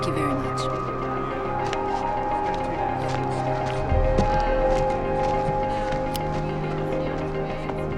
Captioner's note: people chattering; suspenseful music